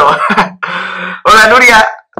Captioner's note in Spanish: ríe